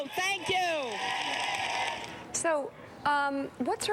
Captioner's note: cheers and applause